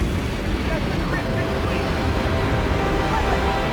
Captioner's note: rumbling